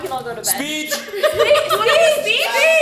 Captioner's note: laughs